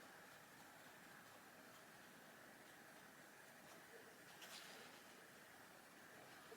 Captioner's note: light brush strokes